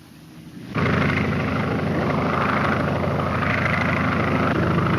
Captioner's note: airplane engine roaring